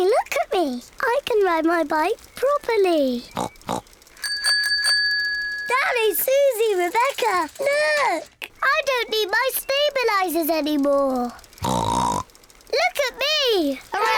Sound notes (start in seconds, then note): 3.2 snorts; 4.0 bicycle bell rings; 11.6 snorts; 14.0 all laugh